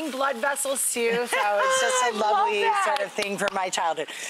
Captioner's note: laughs